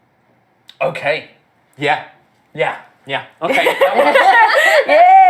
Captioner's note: excitedly